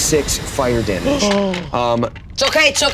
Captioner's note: gasps